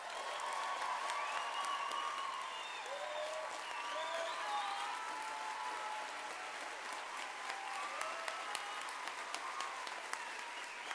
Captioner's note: applause